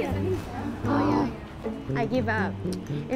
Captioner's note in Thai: ถอนหายใจ